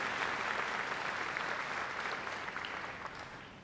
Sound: applause

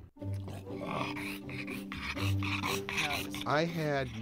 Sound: harsh grunting

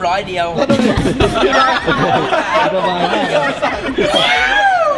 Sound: laughs

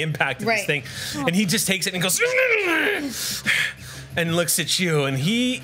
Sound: monster sounds

